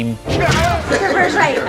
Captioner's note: I-beam smacks